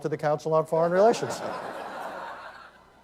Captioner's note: laughter